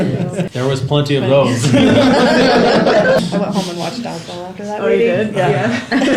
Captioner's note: laughter